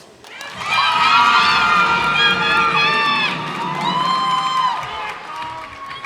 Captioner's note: cheers and applause